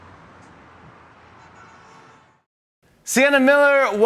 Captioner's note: horn honks